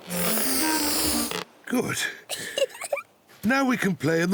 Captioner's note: giggles